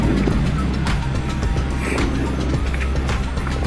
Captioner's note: wind noise